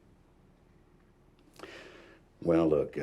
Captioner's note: sighs